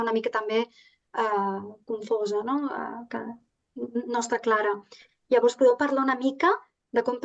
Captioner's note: continues speaking in Catalan